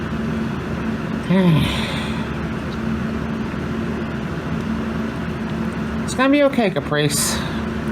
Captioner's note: Caprice sighs